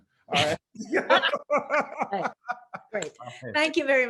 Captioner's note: laughing